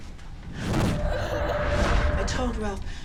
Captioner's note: child crying